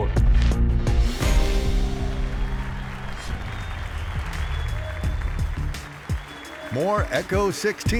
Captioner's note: applause